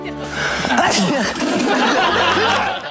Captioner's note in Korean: 이 크게 재채기를 한다